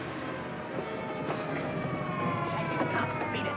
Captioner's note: sirens wailing